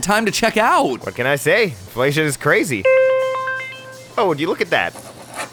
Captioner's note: phone notification